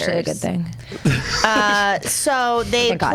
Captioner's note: laughs